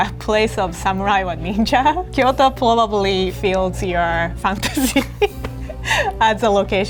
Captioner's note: laughing